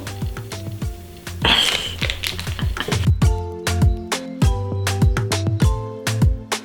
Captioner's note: laughing; upbeat music